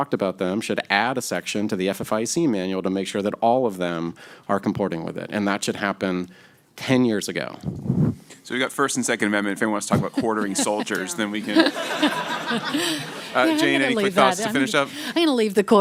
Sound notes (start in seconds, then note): 9.5 laughter